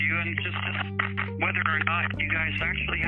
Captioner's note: static crackling